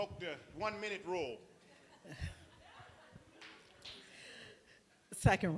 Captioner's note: laughter